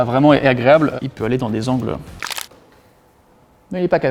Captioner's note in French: bruit d'os qui craquent